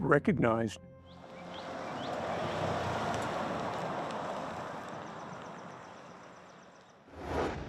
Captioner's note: nature sounds